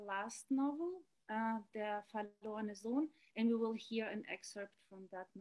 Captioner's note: speaking german